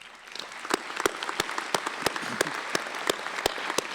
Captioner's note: applause